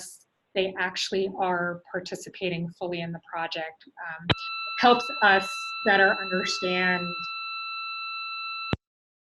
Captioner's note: beeping noise